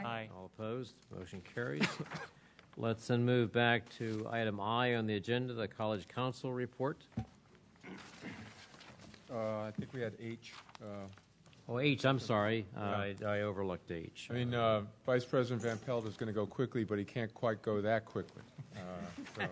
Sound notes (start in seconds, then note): 19.0 laughter